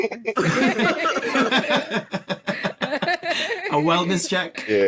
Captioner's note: laughter